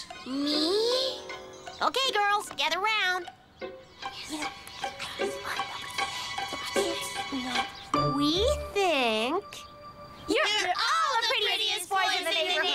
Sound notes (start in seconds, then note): 3.1 whispering